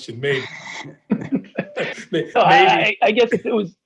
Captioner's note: all laughing